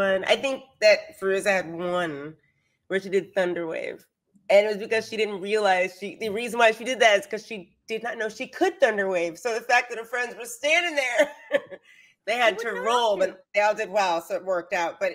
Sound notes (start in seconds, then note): 12.4 laughs